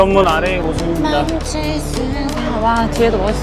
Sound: humming

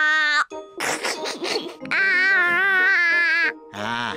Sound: giggles

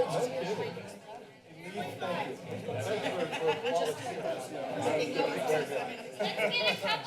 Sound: background conversations

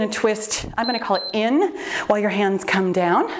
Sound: timer beeps

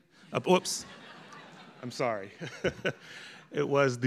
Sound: audience laughing; laughing

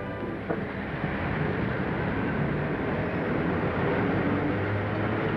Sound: cars passing

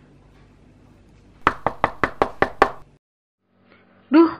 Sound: door knocks suddenly

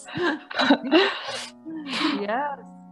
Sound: laughter

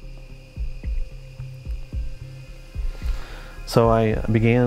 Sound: crickets chirping

